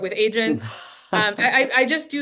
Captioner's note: laughs